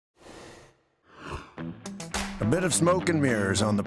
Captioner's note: rushing sound plays